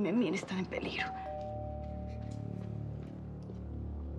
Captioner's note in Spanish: suena el timbre de la puerta